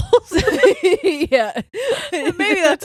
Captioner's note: all laughing